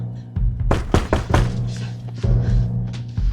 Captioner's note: knocking continues